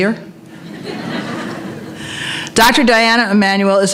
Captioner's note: laughter